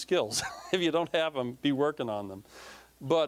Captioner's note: laughing